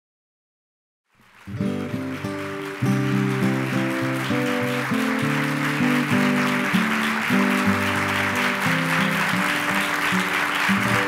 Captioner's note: applause and music